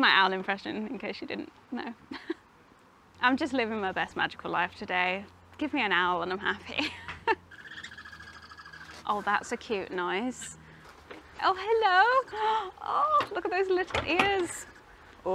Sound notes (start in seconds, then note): 2.1 laughs; 7.4 owl chatters